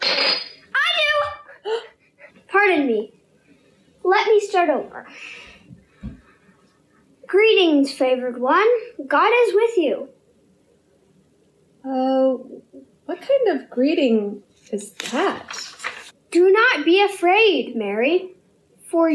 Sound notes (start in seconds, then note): 0.0 clanging sound